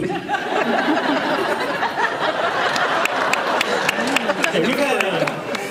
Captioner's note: laughs